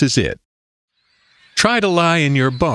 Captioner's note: SFX: Birds again